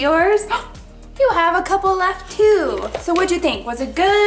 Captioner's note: gasps